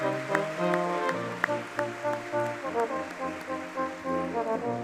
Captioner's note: audience clapping